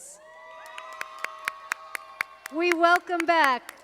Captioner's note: audience applauding